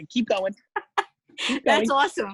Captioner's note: laughing